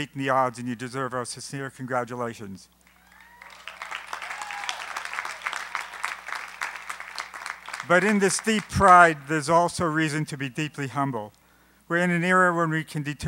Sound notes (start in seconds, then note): 2.9 applause